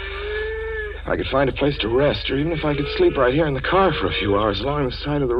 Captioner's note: a deep breath